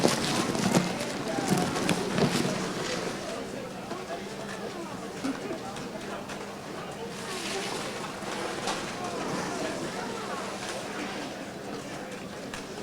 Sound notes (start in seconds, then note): 8.5 audience chattering